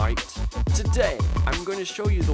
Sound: Australian accent

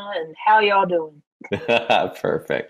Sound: chuckles

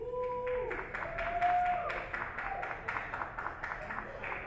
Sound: audience cheer

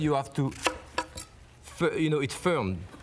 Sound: knife thudding

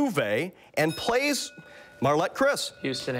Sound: bell rings

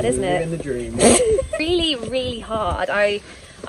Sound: laughs

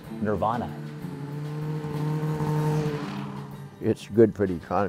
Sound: hum of the engines

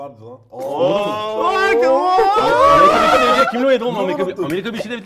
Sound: excited cheers

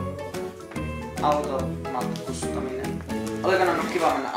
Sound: in Finnish

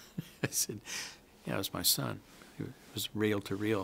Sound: chuckles

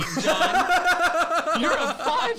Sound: laughs

